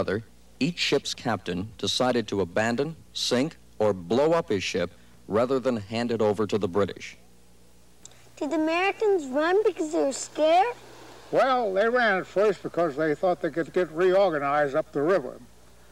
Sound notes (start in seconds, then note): none